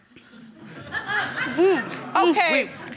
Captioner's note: audience laughing